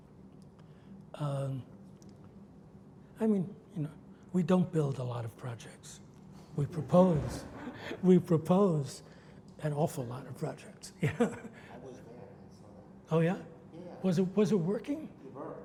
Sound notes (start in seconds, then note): 7.1 audience laughs; 10.2 laughs